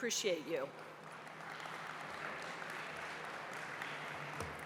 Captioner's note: applause